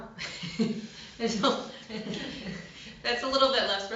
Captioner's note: laughter